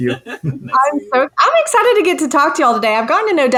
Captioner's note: chuckling